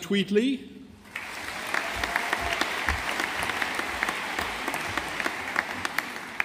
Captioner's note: audience applauding